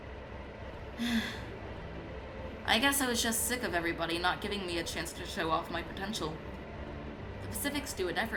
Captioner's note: sighs